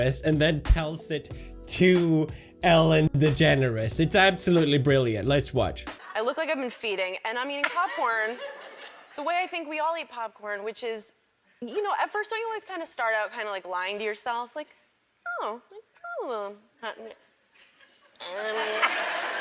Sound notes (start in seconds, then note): 7.6 a couple people laugh; 14.9 squeaky voice; 19.2 laughter